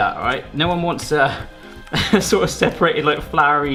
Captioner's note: chuckles